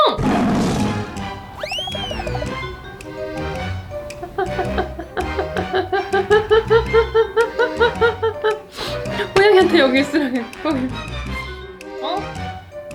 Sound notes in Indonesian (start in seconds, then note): 0.1 mengaum; 4.1 tertawa; 11.1 tertawa